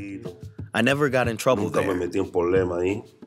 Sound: through translator

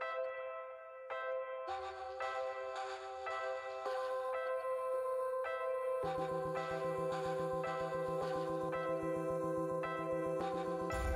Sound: cheers and Applause

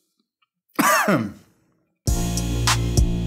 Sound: coughing; suspenseful music

